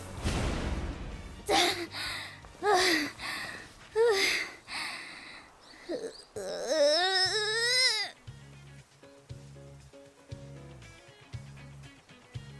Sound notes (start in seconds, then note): 1.5 huff; 4.6 haaah